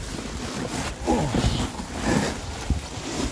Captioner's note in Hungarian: Nyögés